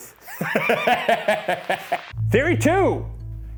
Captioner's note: laughing